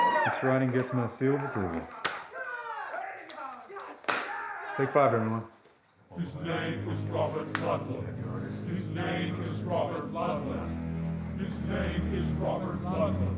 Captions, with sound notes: This writing gets my seal of approval. Take five, everyone. [CHANTING] His name is Robert Ludlum... His name is Robert Ludlum...